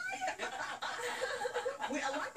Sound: laughter

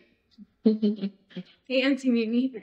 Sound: Mimi and marshon laugh

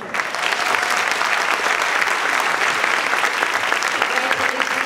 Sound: audience clapping; speaker drowned out by clapping

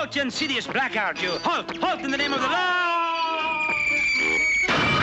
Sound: screaming; crashes

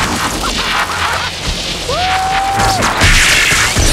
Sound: laughing and whooping

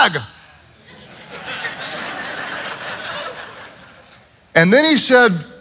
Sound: congregation laughs

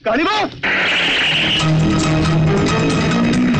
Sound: tires squealing

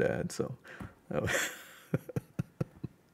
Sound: laughs

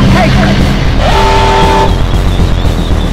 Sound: alarm goes off

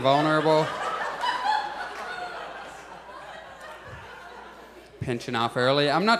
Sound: audience laughs

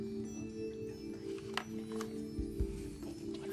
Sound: whispering

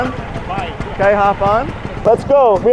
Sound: engine growling

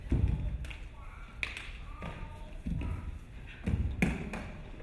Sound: dancer clapping

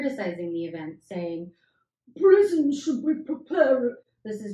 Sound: reading the quote in evil gluttonous Tory voice; normal hoot-voice

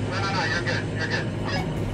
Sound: over the walkie-talkie

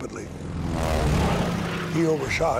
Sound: airplane engine roars

